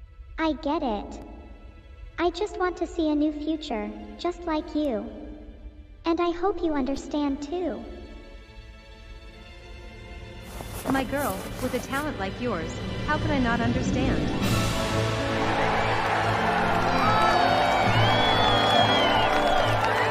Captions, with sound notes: I get it. I just want to see a new future, just like you. And I hope you understand too. My girl, with a talent like yours, how could I not understand? (CHEERING)